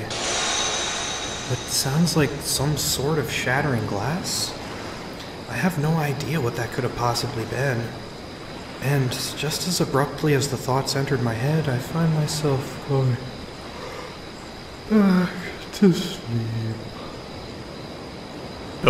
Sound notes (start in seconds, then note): 0.3 glass shatters; 14.9 yawns